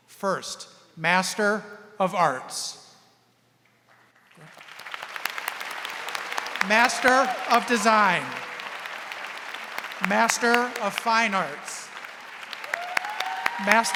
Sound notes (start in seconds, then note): 4.1 audience applauding; 8.7 audience applauding; 12.2 audience applauding and cheering